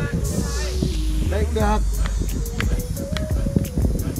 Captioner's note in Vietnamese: Tiếng bước chân xuống cầu thang